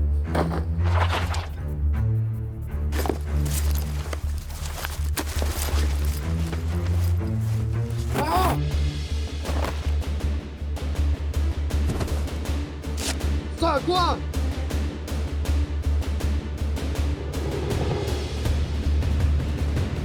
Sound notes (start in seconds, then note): 0.2 loud thud; 3.7 loud rifling; 8.0 yelling; 13.6 Mandarin; 16.7 dramatic music